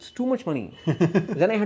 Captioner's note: laugh